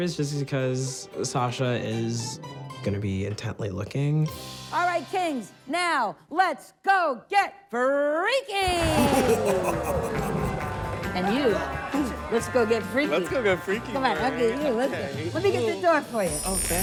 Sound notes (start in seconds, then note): 8.6 contestants cheering